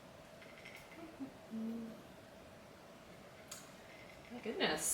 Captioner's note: humming